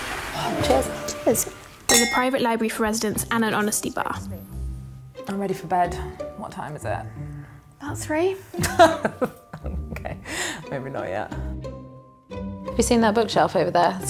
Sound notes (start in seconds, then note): 1.8 glasses clinking; 8.6 laughs